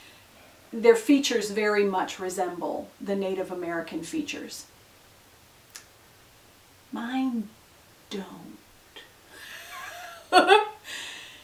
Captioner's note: laughs